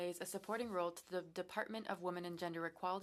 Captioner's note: speaking french